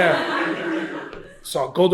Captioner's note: laughter